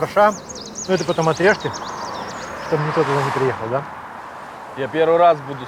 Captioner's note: laughing